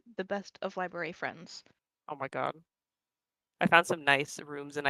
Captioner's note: none